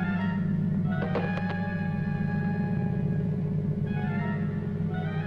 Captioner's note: spear clattering